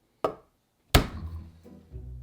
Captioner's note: knife smashing